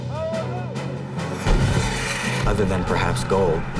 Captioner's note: explosion booms